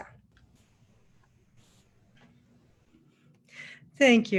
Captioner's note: speaking with Northern-Californian accent